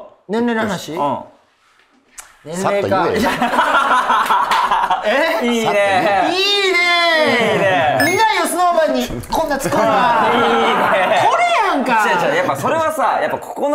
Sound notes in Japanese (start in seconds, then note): 9.1 ペシッ